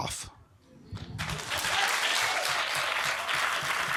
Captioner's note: applause